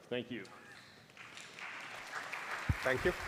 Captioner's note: applause